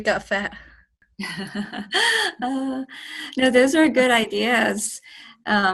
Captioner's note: chuckles